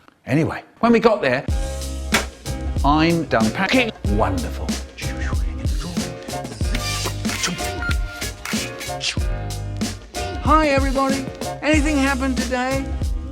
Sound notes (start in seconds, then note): 5.0 OR making packing noises and putting stuff in drawers idk; 7.7 ringtone